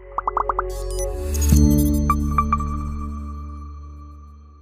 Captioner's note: icons beeping; device beeping